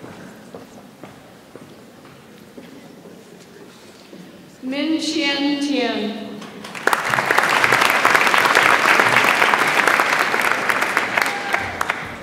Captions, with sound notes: Min Shin Tien. (audience applauds)